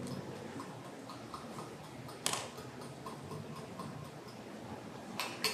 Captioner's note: tapping continues